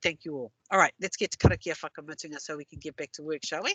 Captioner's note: non-english